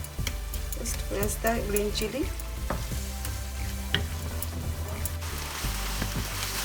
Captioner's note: oil sizzling